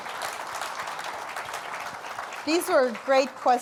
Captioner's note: applause